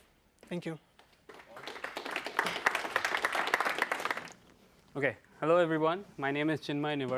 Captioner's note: applause